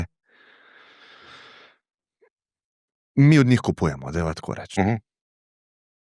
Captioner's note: sigh